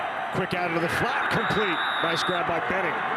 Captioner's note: referee blows whistle